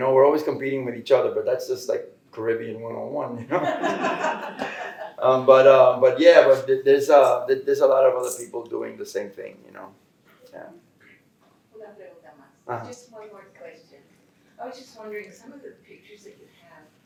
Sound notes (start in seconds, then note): 3.4 laughter; 11.1 Spanish